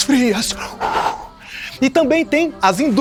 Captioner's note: puffing